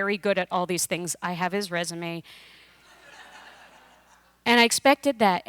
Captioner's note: laughter